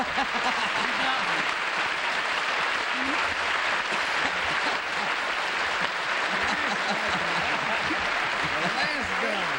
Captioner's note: applause